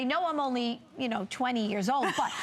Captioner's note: laughter